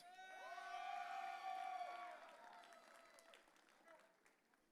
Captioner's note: audience cheering